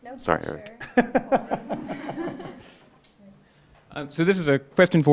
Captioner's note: laughing